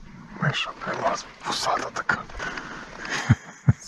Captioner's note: laughter